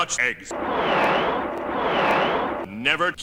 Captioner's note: whoosh... whooooosh